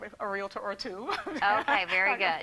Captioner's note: laughs